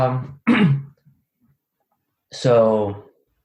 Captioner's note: clears throat